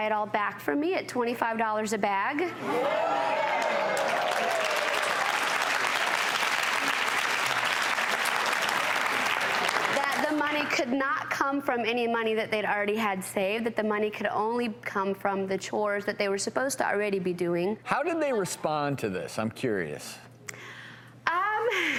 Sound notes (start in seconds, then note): 2.8 audience applause